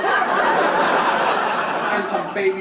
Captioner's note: audience laugh